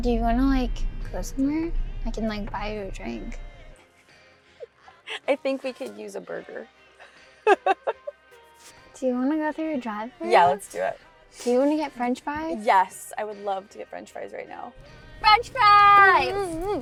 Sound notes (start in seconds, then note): 7.3 laughs